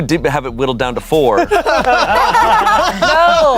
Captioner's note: everyone laughs